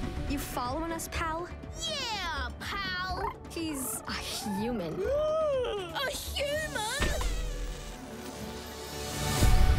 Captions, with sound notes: You following us, pal? -Yeah, pal? -[purrs] He's a human. [gasps] A human?